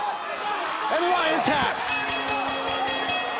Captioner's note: bell ringing